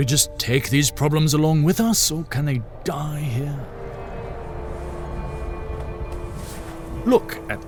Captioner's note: wind blows, sounds of sifting sand